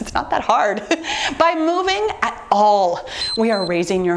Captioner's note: timer beeps